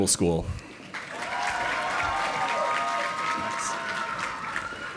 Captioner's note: audience applauding